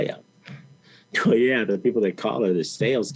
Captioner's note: chuckles